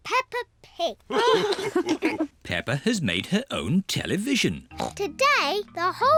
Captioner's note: all laugh